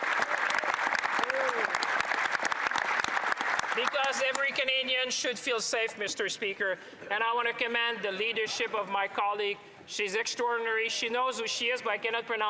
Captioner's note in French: applaudissements; voix de l'interprète